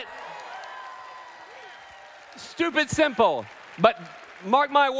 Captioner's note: applause